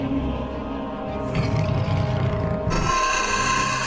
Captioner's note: scorpion beast growls; scorpion beast shrieks